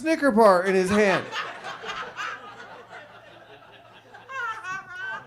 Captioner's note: audience laughs